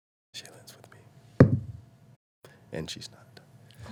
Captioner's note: whispering